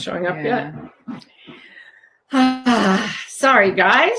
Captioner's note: groans